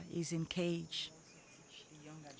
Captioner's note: indistinct chatter